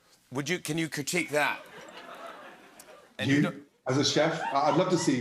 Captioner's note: laughter